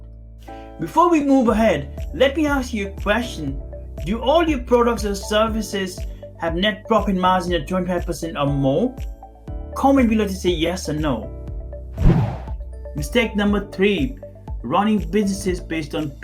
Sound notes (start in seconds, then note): 11.9 air swooshing